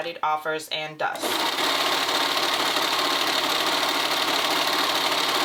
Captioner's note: sewing machine whirring